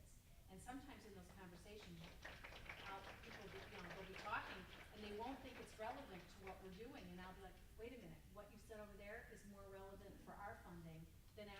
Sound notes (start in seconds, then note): 1.8 group applauding drowns out speaking